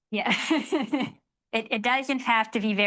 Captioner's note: laughing